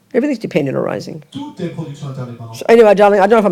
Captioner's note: speaking in French